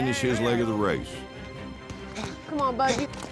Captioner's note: footsteps